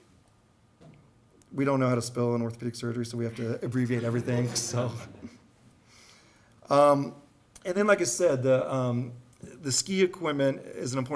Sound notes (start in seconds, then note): 3.3 audience laughs